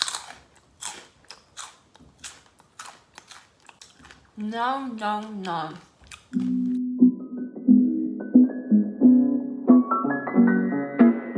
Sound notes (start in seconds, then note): 0.0 crunching; 6.8 subtle piano music